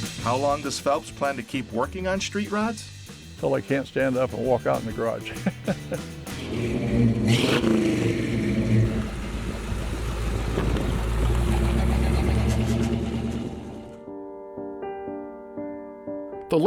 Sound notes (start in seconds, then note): 5.2 laughs; 5.9 engine revving; 13.8 gentle music